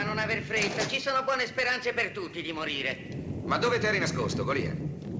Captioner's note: thunder rolling